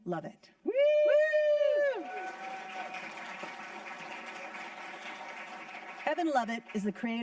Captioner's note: audience cheering